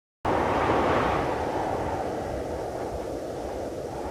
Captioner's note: more high winds